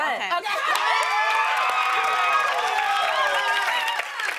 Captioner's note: cheers and applause